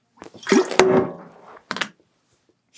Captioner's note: sound of setting down a water bottle